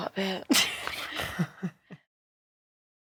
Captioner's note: laughs